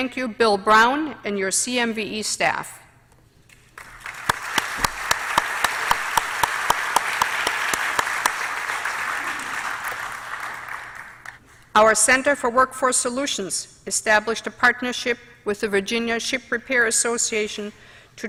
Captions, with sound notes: THANK YOU, BILL BROWN AND YOUR CMVE STAFF. [APPLAUSE]. OUR CENTER FOR WORKFORCE SOLUTIONS ESTABLISHED A PARTNERSHIP WITH THE VIRGINIA SHIP REPAIR ASSOCIATION TO